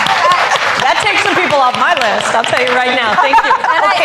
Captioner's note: applause